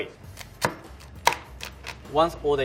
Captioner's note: chopping lobster